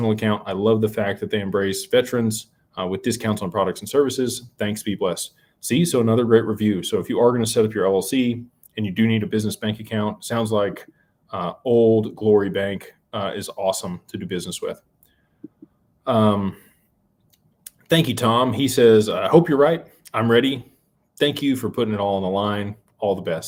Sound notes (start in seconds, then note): none